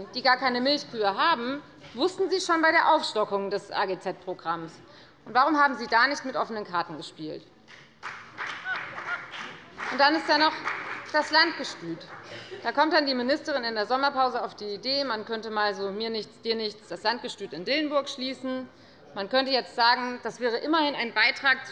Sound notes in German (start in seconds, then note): 7.6 Beifall bei der FDP